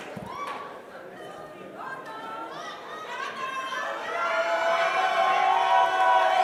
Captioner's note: crowd cheering